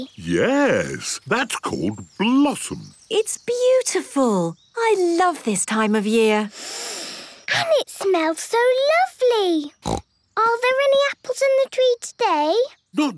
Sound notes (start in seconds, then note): 6.5 Peppa inhaling deeply; 9.8 snorting